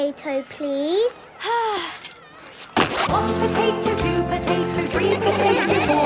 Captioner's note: Belinda sighing; laughter